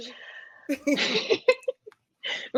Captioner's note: laughing